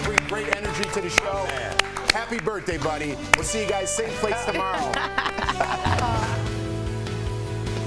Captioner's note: applause